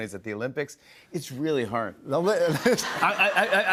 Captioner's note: laughter